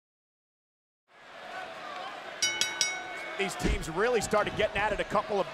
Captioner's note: applause